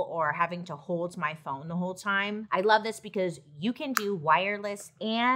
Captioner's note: none